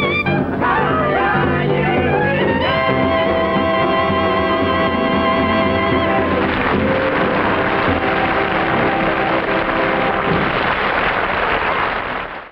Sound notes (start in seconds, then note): 5.6 audience applauding